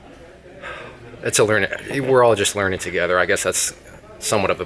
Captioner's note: sighs